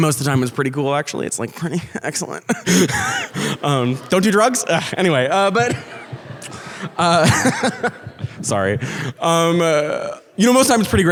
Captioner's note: laughs